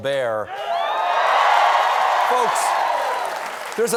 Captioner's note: cheers and applause